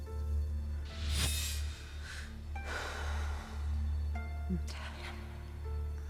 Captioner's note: Theodocia sighs